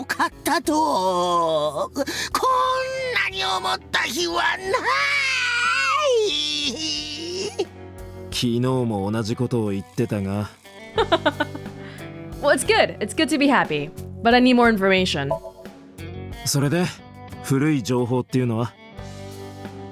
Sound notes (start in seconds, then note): 10.9 chuckles